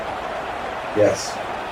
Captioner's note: crowd Noises